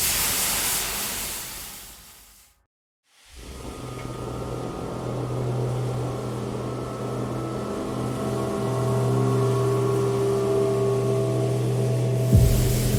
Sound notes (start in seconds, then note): 0.0 train hissing; 3.9 train hissing; 5.2 suspenseful music